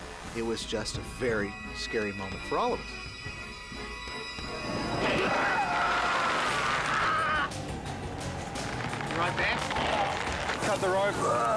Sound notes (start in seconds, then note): 4.8 basket lurching; 5.2 screams; 11.3 groaning